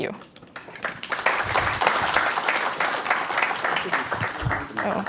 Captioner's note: applause